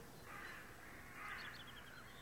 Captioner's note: birds call